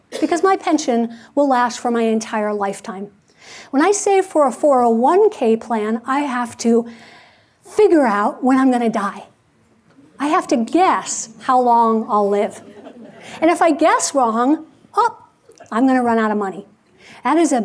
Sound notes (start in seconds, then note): 12.4 audience laughing